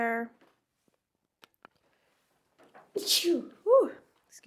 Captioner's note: sneezes